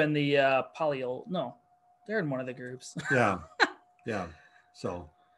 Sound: chuckles

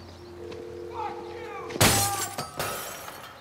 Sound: glass Breaking

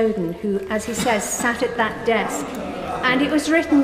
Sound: some other Peers groan

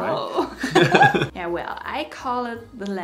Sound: both laughing

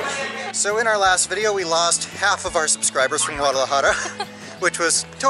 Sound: laughter

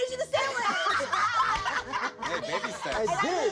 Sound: cast members laugh

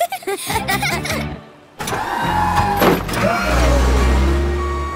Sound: laughing

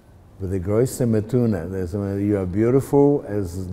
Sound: speaking Yiddish

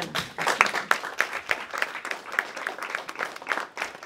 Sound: applause

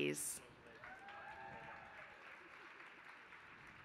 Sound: applause

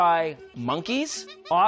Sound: monkey calls

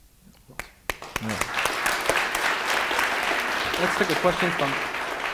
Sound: audience applauding

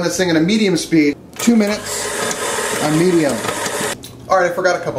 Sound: mixer whirring

